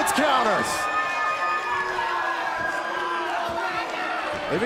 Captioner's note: crowd cheering